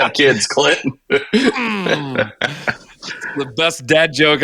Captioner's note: laughing